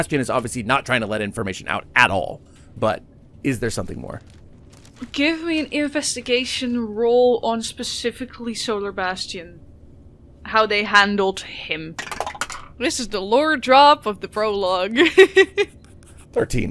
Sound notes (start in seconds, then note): 12.0 Dice tower clacks; 15.5 laughs